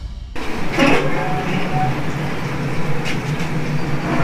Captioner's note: BBQ squeaks